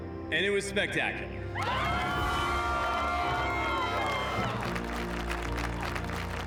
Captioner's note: cheering, applause